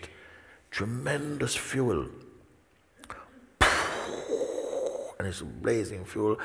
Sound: mimics rocket launch

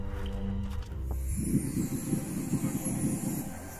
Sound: sounds of magic

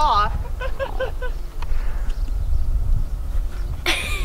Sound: man laughs

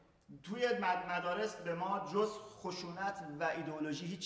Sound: speaking in farsi

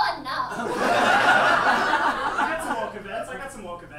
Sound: audience laughs

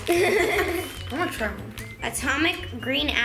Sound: laughs

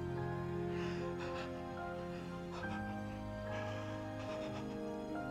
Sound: faint sobbing

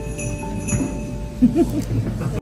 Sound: giggles

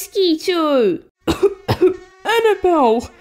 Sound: cough! Cough!

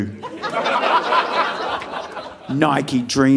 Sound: audience laughing

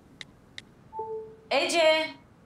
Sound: message tone

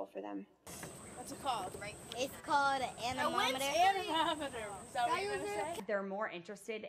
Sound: child's voice

